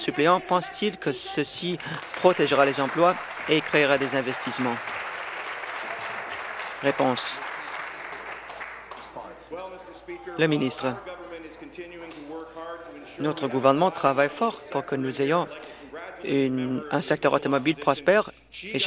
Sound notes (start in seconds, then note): 6.0 applause